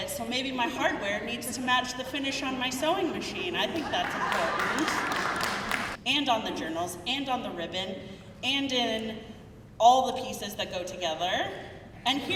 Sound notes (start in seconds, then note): 3.6 crowd laughing; 3.7 crowd clapping